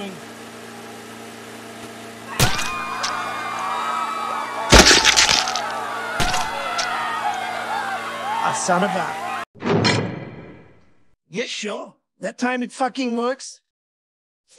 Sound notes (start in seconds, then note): 0.0 mower clipping grass; 0.2 blood splatting; 0.2 crowd of people screaming; 9.6 jail door closing